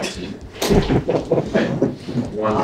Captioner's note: laughs